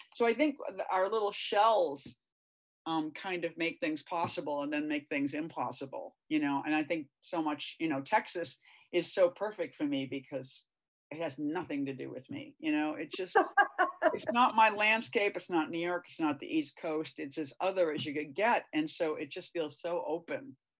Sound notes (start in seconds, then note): 13.3 laughs